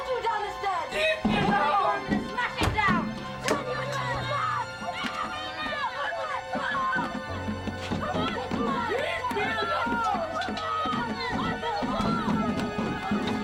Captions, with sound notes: I'm gonna kick you down the stairs. Open this door, or I'm gonna smash it down. (boys yelling) (pounding on window) - Leave me alone!